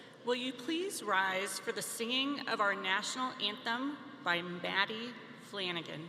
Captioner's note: none